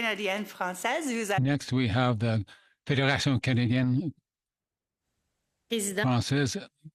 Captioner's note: speaking French